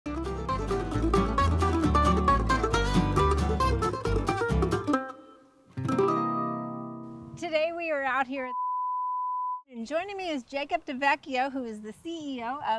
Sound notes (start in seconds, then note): 1.8 light-hearted music; 8.5 beep